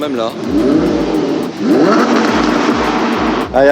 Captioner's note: engine roaring